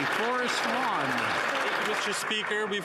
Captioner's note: some Applause